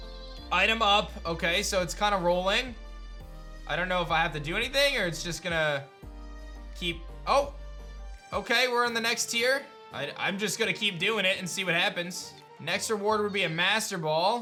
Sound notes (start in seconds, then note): none